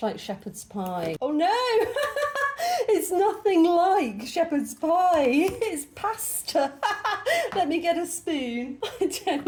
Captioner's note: laughing